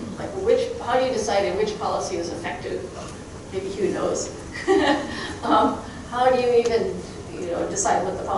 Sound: chuckling

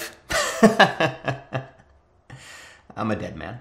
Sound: laughs

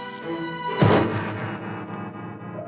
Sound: thuds

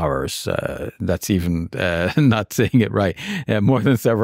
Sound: chuckling

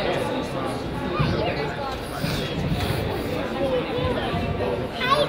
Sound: crowd chatters

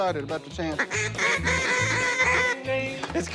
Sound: duck calls

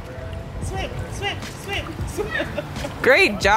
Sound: laughs

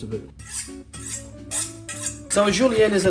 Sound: knife sharpener swishes

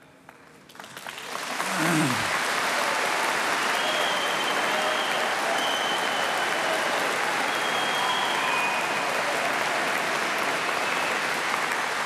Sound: applause

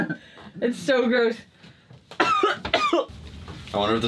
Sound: coughs

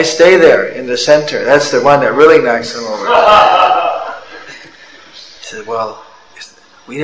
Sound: laughter

